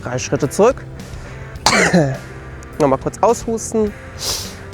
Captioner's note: cough